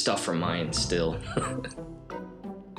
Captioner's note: laughs